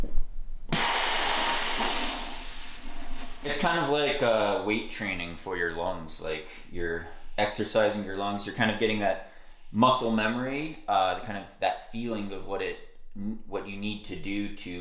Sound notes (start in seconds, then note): 0.7 exhaling